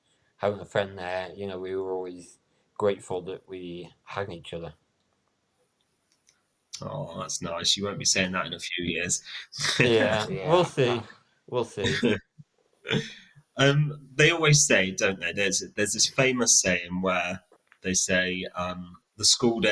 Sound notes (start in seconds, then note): 9.2 chuckle